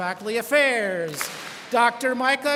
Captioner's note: students clap